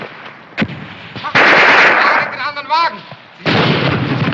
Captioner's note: shouting in german